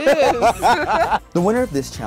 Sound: laughs

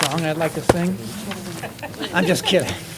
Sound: laughter

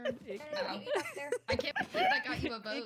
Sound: laughing

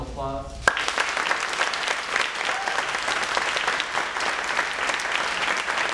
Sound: cheering and applauding

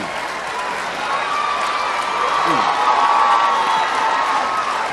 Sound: crowd cheering

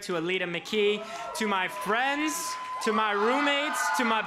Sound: crowd cheers

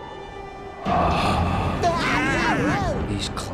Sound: shrieking

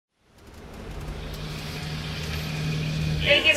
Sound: engine revving

